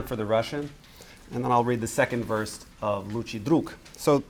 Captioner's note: speaking russian; speaking russian